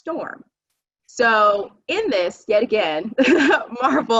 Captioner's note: chuckling